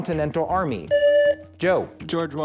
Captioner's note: buzzer